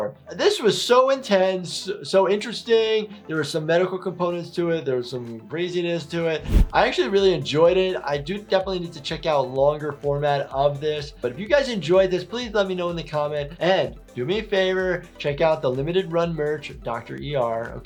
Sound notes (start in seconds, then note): none